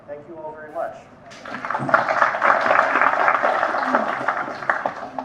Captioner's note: audience applauding